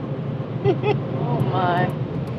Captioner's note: nervious laugh